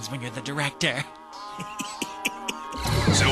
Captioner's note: snickers